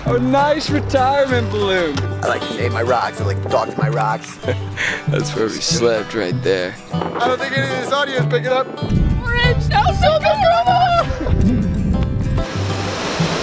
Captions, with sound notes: - Oh, nice retirement balloon. - I like it my rocks, like totally my rocks. - (laughs) That's where we slept right there. - I don't think any of this audio's picking up. (screams) (water flowing)